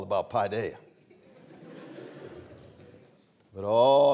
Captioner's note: laughter